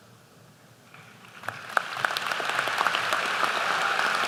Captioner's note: applause